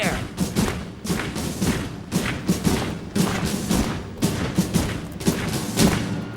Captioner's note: footsteps thudding; militant music